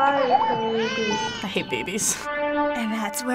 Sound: baby wails

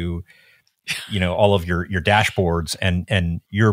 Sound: laughing

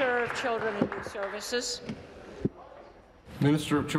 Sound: applause

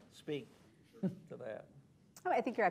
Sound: chuckles

